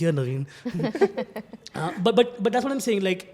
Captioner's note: laughs